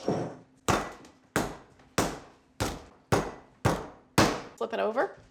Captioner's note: pounding sound